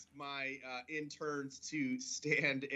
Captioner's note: laughter